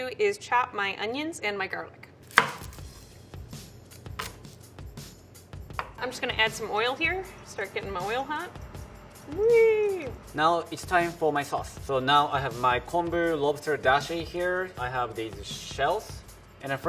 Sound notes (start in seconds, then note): 2.2 chopping onion